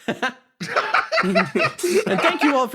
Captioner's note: laughs